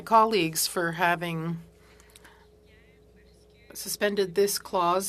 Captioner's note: speaking French